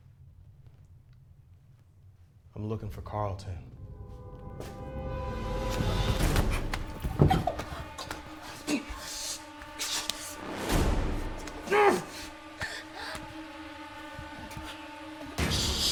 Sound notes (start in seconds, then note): 4.4 tense menacing music; 6.0 Hillary gasping; 11.6 Phillip grunts; 12.0 tense menacing music